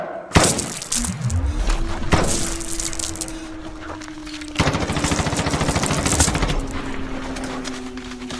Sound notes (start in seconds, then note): 0.3 gunshots